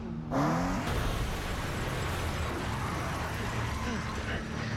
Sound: engine revs, tires screech

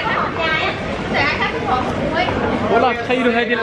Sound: speaking Vietnamese

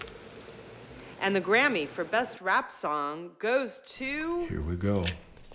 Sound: voiceover

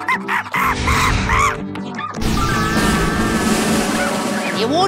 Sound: monkey screams; uplifting music; drum rolls

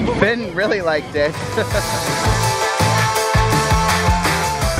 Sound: laughs

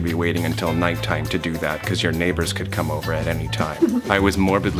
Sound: giggles

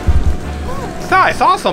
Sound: assistant gasps

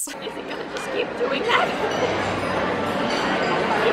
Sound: audibly shook

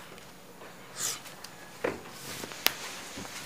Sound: Macky sniffs

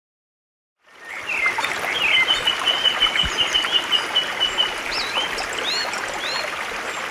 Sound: water burbling; birds chirping

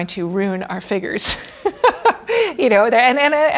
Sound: laughs

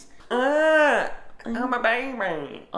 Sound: cries

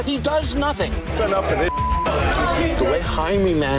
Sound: beep

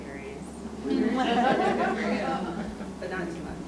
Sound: audience laughs

